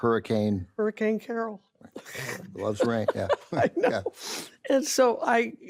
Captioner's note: laughs